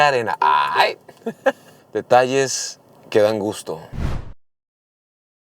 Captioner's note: laughter